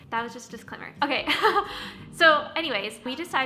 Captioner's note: chuckles